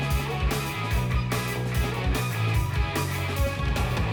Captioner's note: none